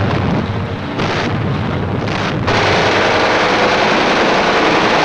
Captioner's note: planes roaring; guns firing